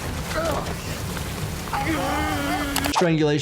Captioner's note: Player 456 yelling